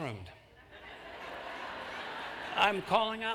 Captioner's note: laughter